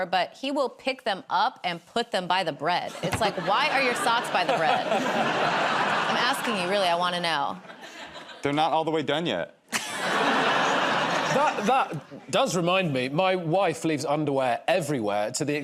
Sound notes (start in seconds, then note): 9.7 laughter